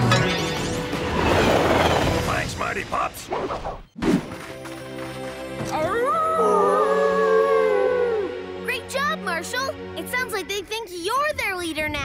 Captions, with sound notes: Thanks Mighty Pups! [howling] Great job, Marshall! It sounds like they think you're their leader now.